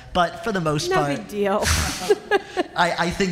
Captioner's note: laughter